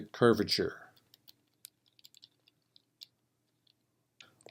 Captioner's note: typing